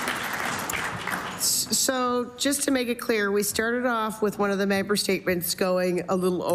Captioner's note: applause